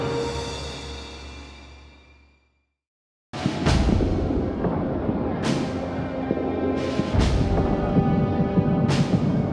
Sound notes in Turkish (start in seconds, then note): 3.4 davullu gergin orkestra müziği; 3.4 çoklu patlamalar